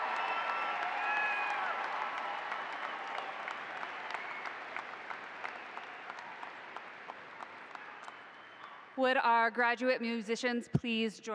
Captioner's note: applause